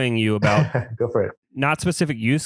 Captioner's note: laughs